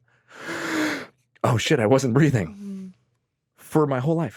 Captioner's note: inhales deeply